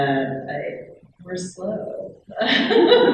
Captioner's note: laughing